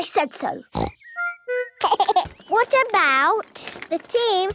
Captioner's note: giggling